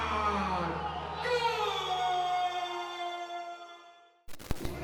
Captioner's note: man yelling